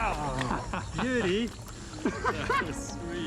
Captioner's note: laughs